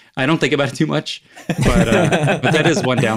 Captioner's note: all laugh